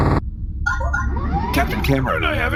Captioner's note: communicator chimes